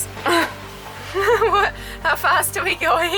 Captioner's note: laughs